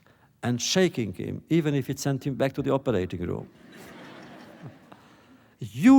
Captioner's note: laughter